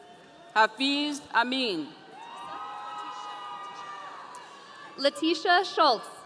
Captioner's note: audience cheering